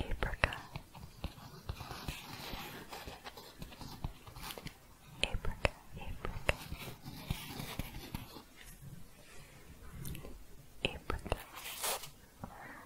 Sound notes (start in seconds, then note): 0.1 scratching and tapping; 6.0 scratching and tapping; 10.9 scratching and shuffling